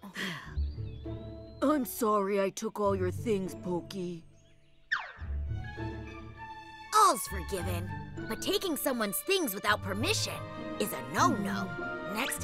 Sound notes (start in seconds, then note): 0.1 exhales